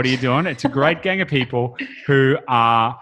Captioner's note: laughs